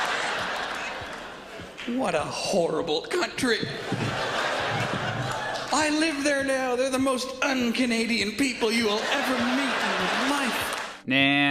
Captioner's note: laughs; laughs